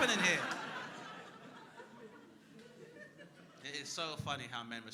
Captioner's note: crowd laughing